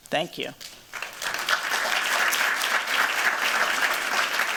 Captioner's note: applause